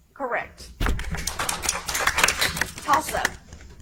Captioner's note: audience applauds